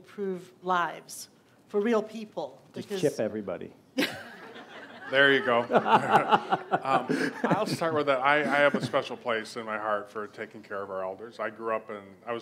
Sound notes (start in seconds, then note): 3.4 laughs